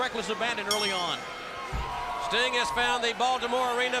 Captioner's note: bell dings